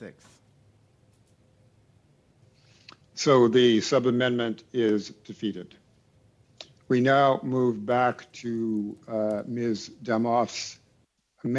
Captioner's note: speaking French